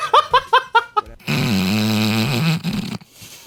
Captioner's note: wheezing laughter; snort